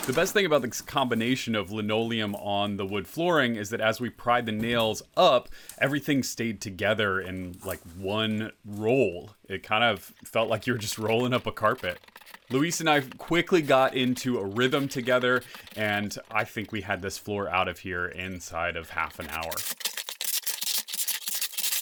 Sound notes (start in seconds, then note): 19.2 sped up sounds of using wrecking bars to pry up floor